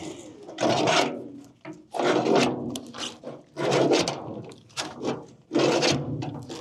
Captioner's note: metal clanking